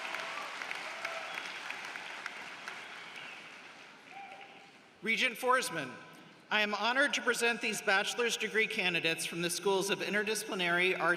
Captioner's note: applause